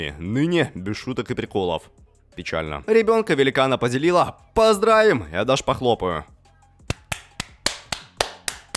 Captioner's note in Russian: хлопки